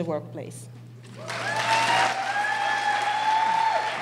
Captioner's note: applause